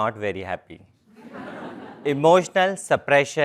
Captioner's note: laugh